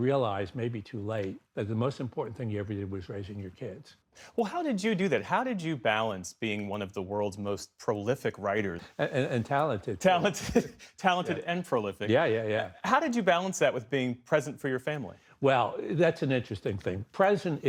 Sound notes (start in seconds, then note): 10.2 laughter